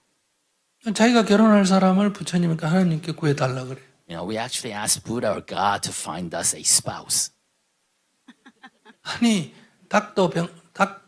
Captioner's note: questioner Laughter